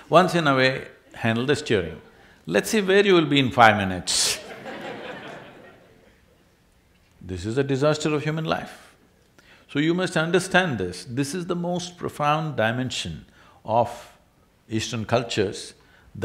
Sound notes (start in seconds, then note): 4.3 laughter